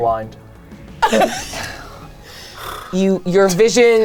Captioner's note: laughs